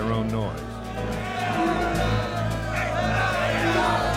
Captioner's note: strikers shouting